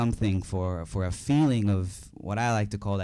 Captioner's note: none